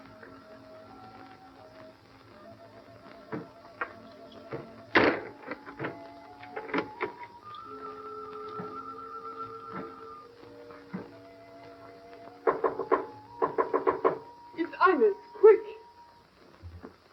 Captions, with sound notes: [knocking] -It's Ines. Quick.